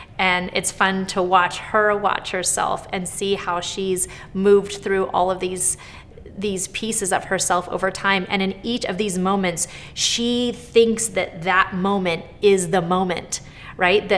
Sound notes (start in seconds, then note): none